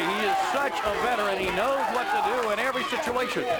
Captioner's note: crowd cheering